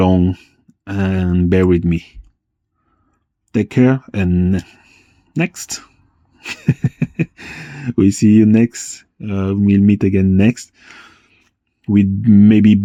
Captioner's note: laughs